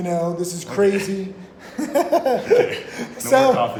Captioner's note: laughing